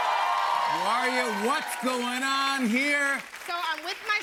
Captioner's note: cheers and applause